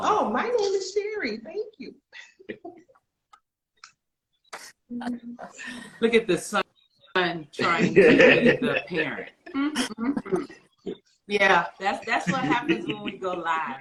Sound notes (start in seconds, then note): 2.2 laughing; 9.4 distorting